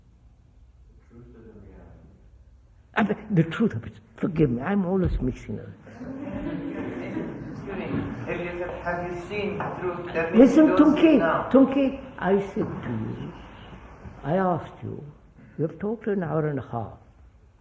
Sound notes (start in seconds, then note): 5.8 laughter